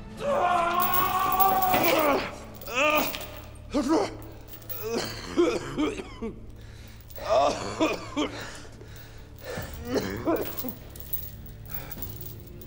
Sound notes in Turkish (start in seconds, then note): 0.2 Dövüş sesleri; 4.6 Öksürme sesi